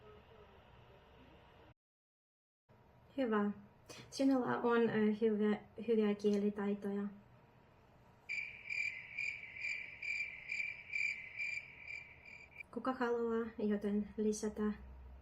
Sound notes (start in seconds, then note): 8.2 sounds of nature